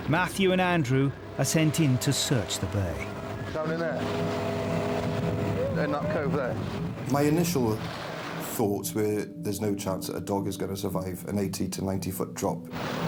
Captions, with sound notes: Matthew and Andrew are sent in to search the bay. (motor whines) - Down in there. In that cove there. My initial thoughts were there's no chance that a dog is gonna survive an 80 to 90 foot drop.